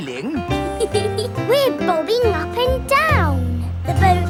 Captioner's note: giggles